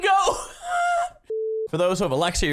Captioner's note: wheezes in whale-song